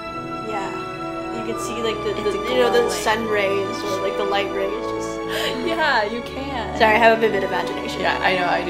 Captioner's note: laughs